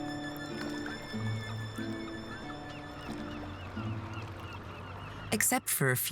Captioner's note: gentle classical music; water babbling